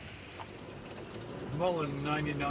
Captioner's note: engine running and clanking sounds